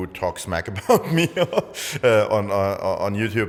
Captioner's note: laughs